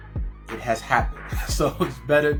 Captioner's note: chuckles